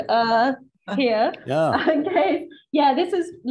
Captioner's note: laughing